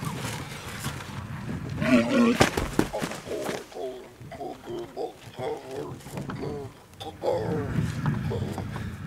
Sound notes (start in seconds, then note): 2.8 grunting